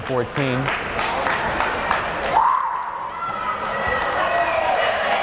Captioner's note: crowd cheering